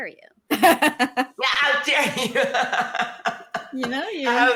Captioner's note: laughs